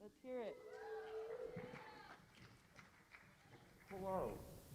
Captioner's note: cheers and applause